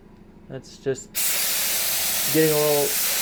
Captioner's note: loud spraying